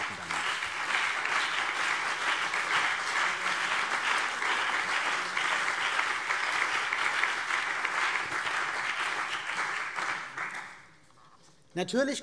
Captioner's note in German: Beifall CDU und BÜNDNIS 90/DIE GRÜNEN